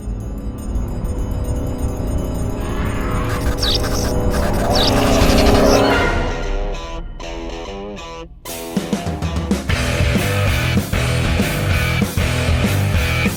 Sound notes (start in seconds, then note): 1.3 electricity buzzing; 2.6 vampire screeching; 6.1 upbeat rock music